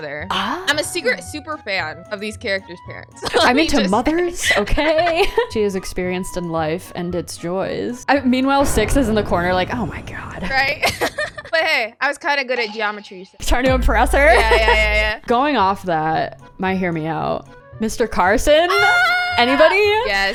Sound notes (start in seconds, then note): 10.8 laughs